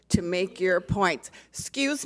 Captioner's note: speaks off microphone